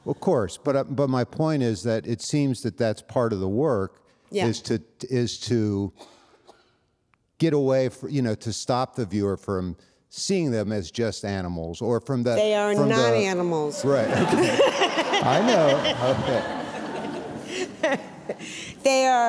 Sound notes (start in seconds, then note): 13.6 all laughing